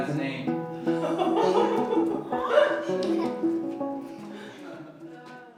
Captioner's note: laughter